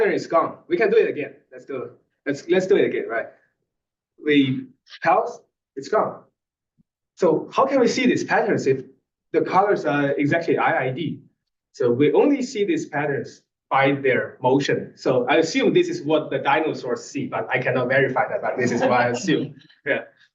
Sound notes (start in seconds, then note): 18.5 laugh